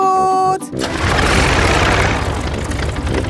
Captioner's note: plane engine starts